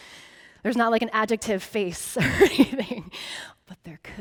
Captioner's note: laughing